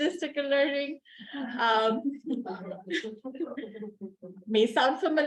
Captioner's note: chuckling